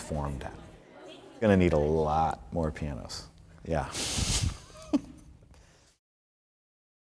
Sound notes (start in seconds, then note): 4.4 laughs